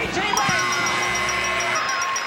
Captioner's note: buzzing; bell dinging